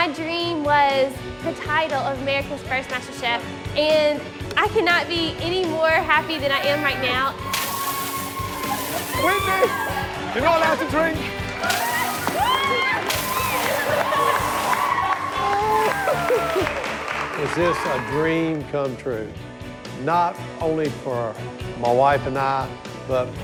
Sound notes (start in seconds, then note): 7.5 cheers and applause; 11.8 squeals and laughter